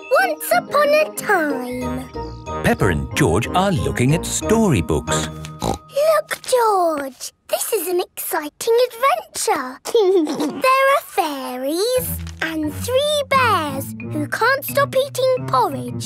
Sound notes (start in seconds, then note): 5.5 snorts; 9.9 giggles